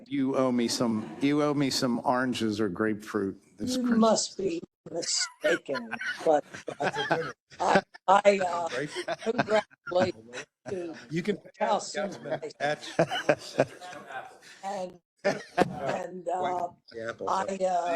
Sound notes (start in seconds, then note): 10.4 laugh